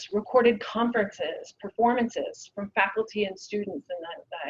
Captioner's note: none